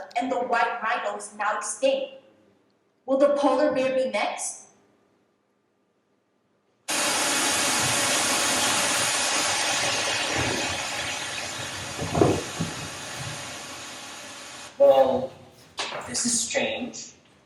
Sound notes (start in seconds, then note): 7.0 TV static